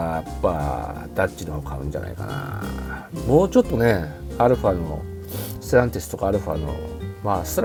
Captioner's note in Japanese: 鼻息